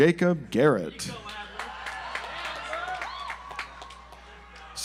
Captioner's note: audience applauds